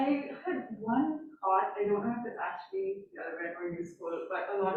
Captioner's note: faintly speaking